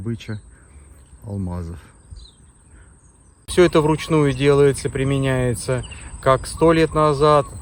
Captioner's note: birds chirping